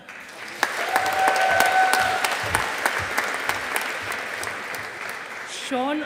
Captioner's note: audience applauding